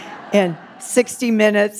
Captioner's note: audience laughing